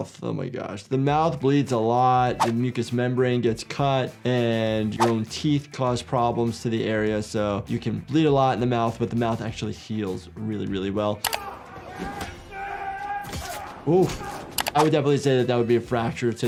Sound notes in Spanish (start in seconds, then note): 11.3 personajes gruñendo